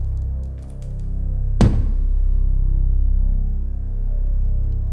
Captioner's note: loud knocking